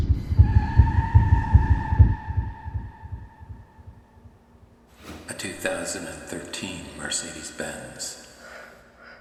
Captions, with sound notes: [Tire screech] [Echoed voice] A 2013 Mercedes Benz